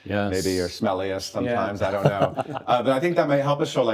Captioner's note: laughs